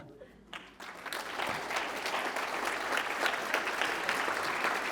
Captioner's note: applause